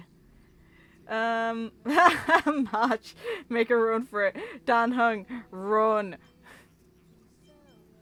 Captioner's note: laughs